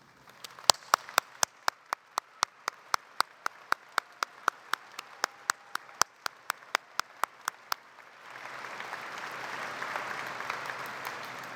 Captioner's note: applause